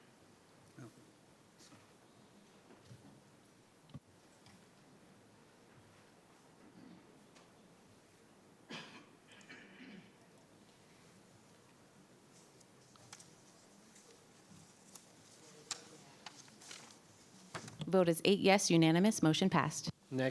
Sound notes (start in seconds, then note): 8.7 person coughing